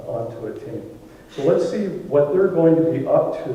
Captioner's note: none